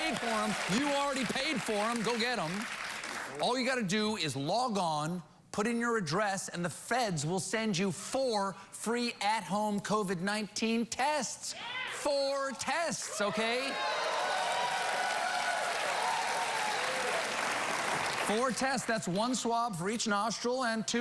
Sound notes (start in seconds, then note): 6.3 applause